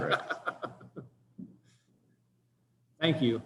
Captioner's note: laughter